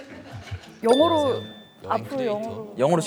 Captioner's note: exclaiming